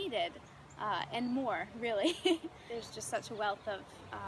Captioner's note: laughs